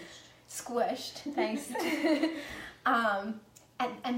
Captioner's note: laughs